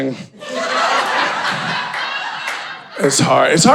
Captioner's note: audience laughing